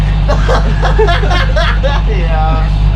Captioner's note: laughter